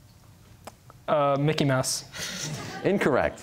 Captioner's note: laughter